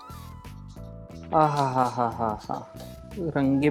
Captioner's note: gasps